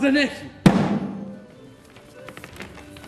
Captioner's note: πυροβολισμός